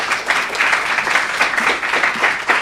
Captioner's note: applause